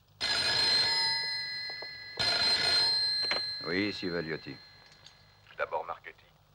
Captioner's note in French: trills téléphoniques